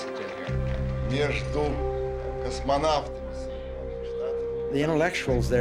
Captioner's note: speaking Russian